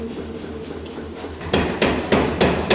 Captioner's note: dull knocking